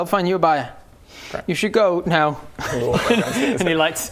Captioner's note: sniffles